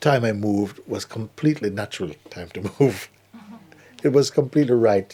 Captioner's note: laughter